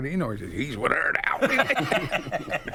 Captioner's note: laughing